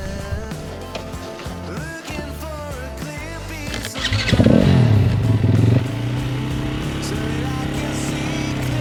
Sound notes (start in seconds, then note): 3.7 engine revving; 7.7 engine roaring